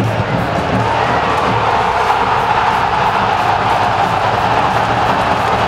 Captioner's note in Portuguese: sons da torcida; gritos de gol; torcida comemorando